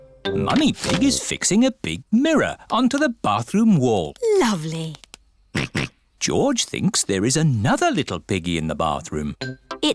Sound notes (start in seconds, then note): 5.6 snorts